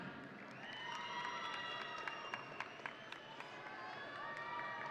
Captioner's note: audience cheering